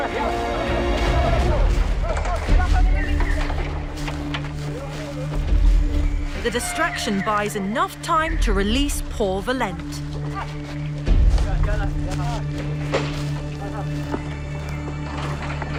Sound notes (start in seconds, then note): 0.1 intense music; 0.1 shouting; 11.1 chatting